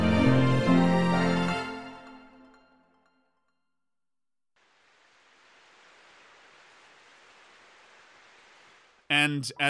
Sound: the sound of raindrops

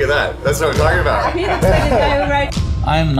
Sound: laughter

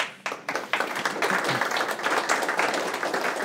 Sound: audience applauding

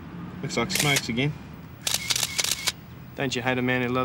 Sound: camera clicks

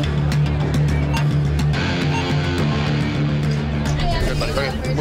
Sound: dramatic music; timer beeping

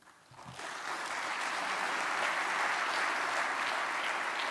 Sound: audience applauds

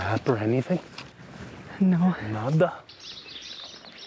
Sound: in Spanish

